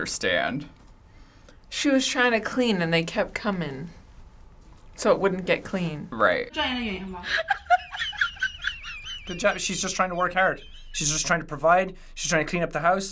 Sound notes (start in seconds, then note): 7.2 cameraman laughing